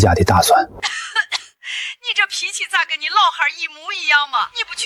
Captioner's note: cough cough